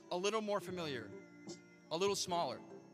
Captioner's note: none